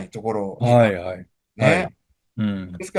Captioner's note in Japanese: 咳払い